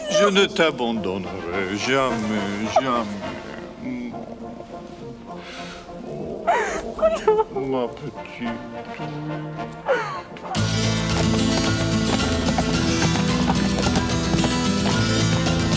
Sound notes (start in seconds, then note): 0.0 John speaks French; 5.9 Jilly sobs; 7.6 John speaks French; 10.3 hooves clop; 10.5 dramatic music